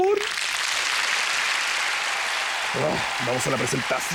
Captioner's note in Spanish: Aplausos